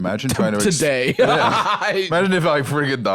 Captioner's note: laughs